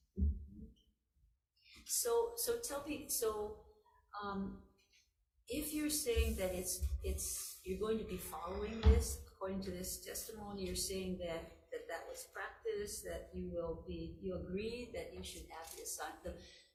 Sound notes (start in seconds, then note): none